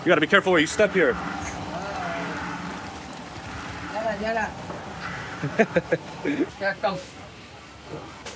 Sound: speaking in foreign language; laughing

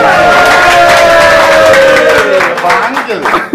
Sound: applauding

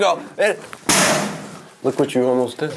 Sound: banging

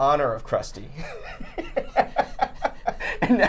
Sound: both laughing

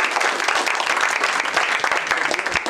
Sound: applause

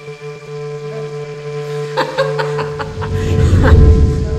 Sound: laughs

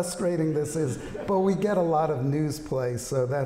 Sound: laughter

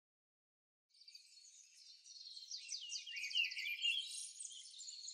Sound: birds chirping

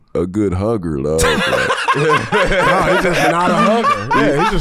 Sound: laughs

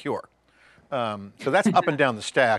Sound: chuckles

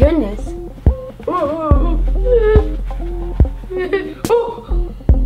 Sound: frightful crying

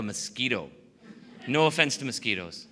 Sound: laughing

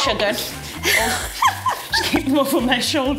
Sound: laughing

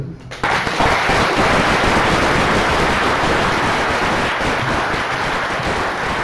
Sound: applause

